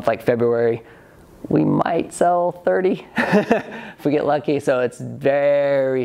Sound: laughs

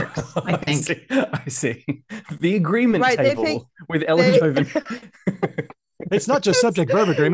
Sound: laughs

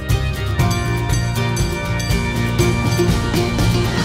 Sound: train's bell dings

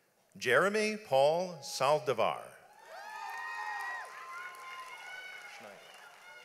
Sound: audience applauds

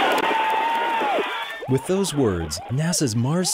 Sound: cheering

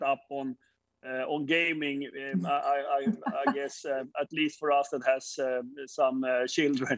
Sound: chuckles

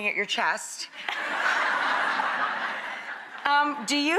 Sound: audience laughs

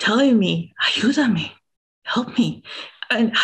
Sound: speaking in a foreign language

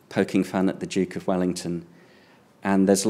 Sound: none

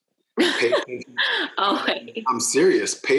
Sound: laughing

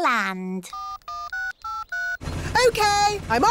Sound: dialing

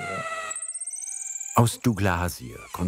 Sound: loud squeaking

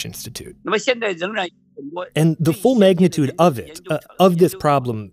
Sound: speaking Mandarin

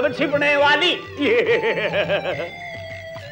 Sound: laughs

